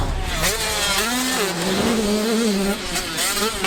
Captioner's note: whoosh sfx